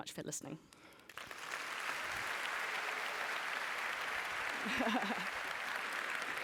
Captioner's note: applause